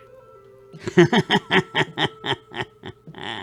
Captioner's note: laughing